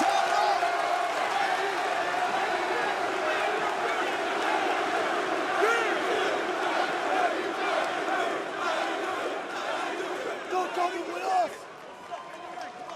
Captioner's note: crowd chatter